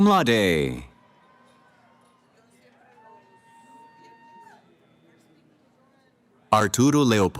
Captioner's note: cheering